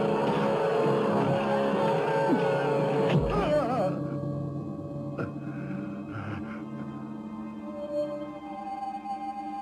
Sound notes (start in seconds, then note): 3.2 Hamza grunting; 3.6 dramatic music